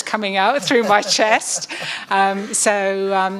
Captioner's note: laughing